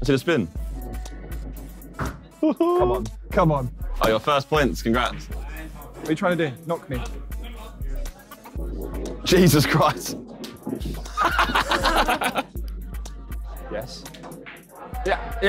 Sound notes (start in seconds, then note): 11.0 laughing